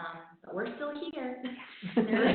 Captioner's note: laughing